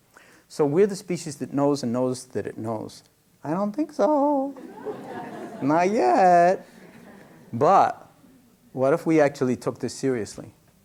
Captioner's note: laughter